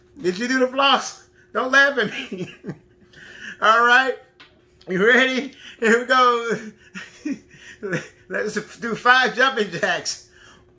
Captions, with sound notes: Did you do the floss? Don't laugh at me (laughing) All right, you're ready? Here we go. Let's do five jumping jacks.